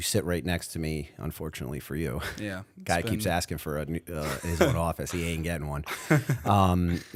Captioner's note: chuckle